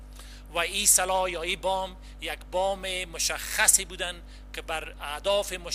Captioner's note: translator speaking in foreign language